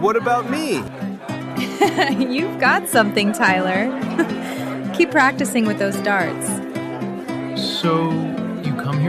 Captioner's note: laugh